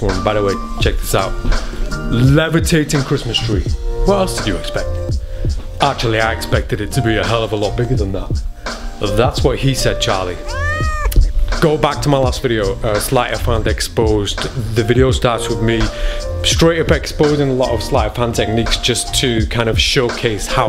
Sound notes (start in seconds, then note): 10.4 baby cries